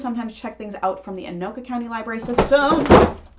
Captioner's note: huge crash from entire pile of books falling